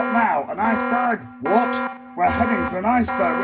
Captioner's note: alarm blaring